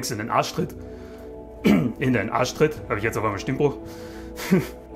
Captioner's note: cough